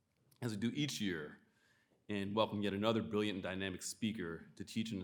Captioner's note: none